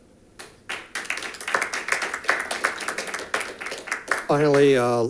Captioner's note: audience applauding